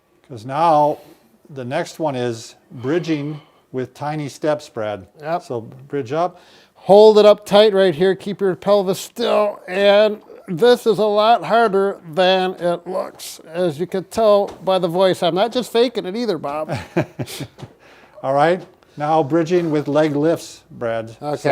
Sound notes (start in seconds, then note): 16.5 chuckling